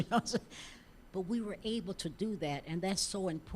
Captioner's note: laughing